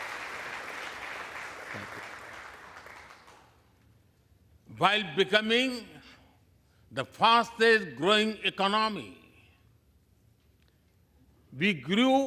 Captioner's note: applause